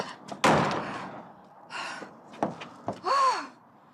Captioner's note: door slamming